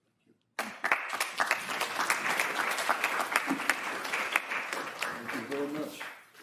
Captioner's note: applause